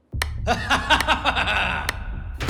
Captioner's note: laughing